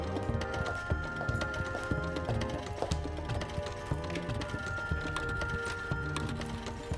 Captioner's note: phone ringing